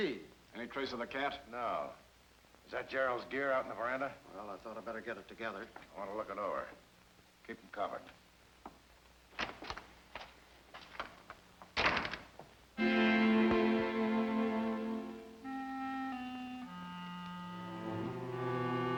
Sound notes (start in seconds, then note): 9.2 door clicking; 9.2 door slamming; 12.8 foreboding music